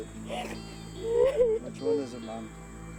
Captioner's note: sobbing